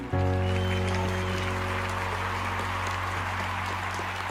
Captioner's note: audience applauding